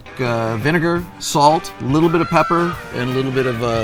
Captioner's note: peacock cawing